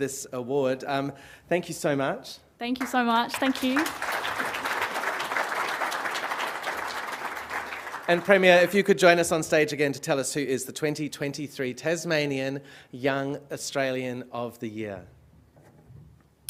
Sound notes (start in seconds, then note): 3.2 applause